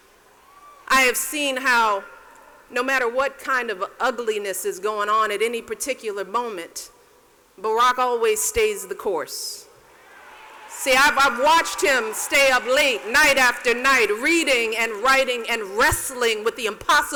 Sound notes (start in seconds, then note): 9.9 cheers